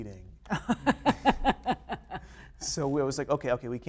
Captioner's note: laughter